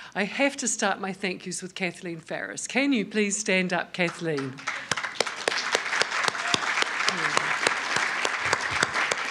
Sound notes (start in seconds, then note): 4.3 applause